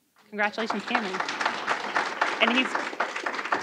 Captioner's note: applause